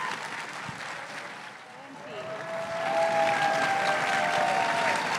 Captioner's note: crowd cheering and applauding